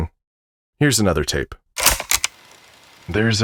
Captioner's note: click